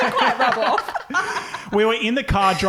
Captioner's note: laughing